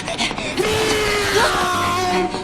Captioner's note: 100% real sound of a formula 1